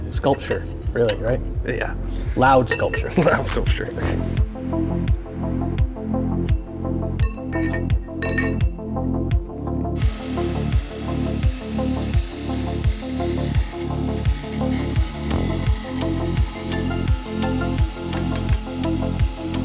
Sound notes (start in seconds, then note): 4.1 tool whirring; 4.1 upbeat music